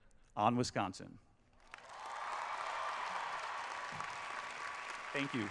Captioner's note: applause